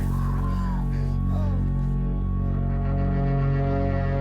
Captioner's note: screaming, then moaning